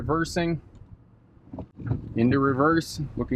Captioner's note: gear shifts